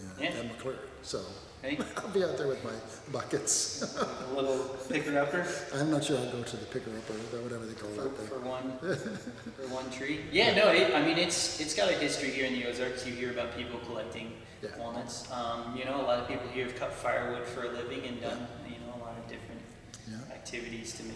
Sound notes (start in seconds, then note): 3.2 laughs; 8.6 laughs